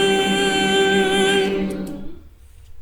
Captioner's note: loud continuous humming